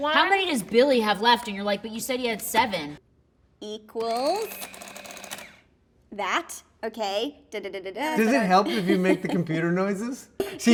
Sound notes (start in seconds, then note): 4.0 adding machine whirring